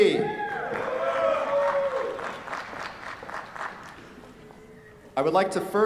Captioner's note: cheers, applause